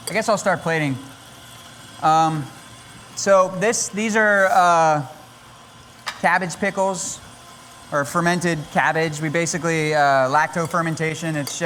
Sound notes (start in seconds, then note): none